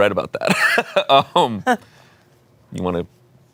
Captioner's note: laughs